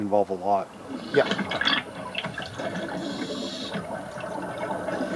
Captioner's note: water bubbling